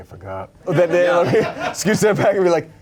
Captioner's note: crew member laughing